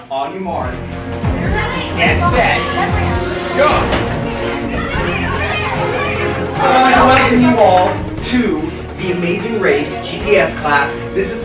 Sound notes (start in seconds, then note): 5.5 students yelling